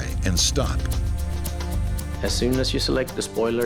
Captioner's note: plane thuds